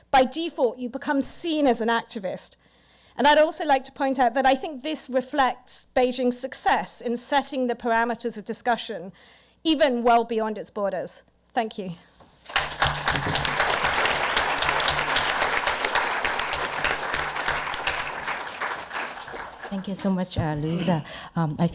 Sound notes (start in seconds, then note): 12.4 audience applause